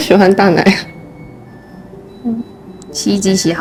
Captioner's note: the washing machine sings